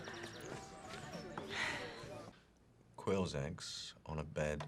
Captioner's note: Kate laughs; birds chirping; upbeat music